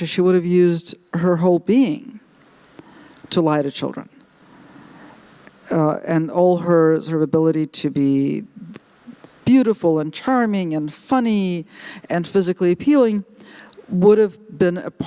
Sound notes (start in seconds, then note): none